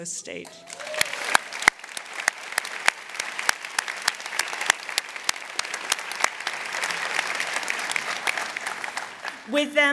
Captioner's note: applause